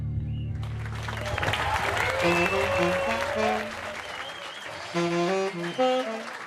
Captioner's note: audience applauding and cheering